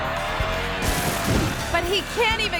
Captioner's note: motorbike engine rumbling; biker thuds